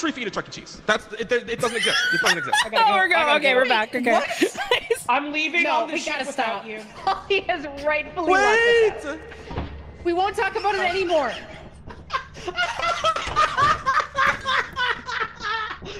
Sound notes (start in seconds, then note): 1.6 laughs; 9.4 door opens; 12.0 laughs really hard